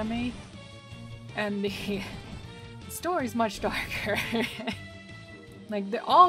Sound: laughing

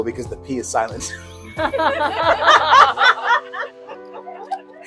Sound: laughter

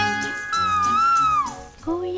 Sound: cuckoo sings

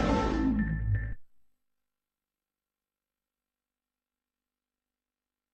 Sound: digital piano music plays; silence

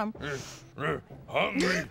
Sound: grumbling

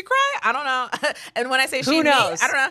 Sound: scoffs

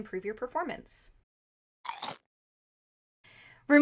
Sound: crunch

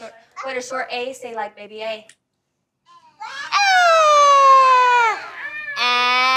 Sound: crying noise

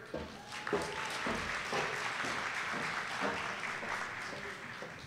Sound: audience applauding

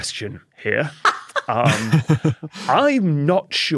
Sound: chuckles; cackles

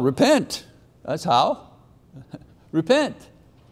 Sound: chuckling

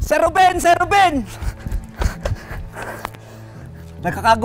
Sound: panting

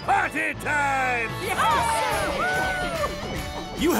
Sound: cheering

